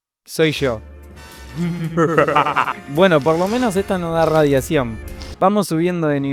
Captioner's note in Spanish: se rie mientras toma agua del inodoro